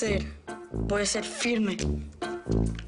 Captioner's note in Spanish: Con voz grave